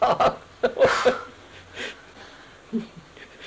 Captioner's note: laughs